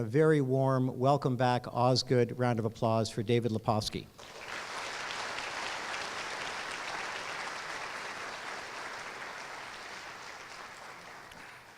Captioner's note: applause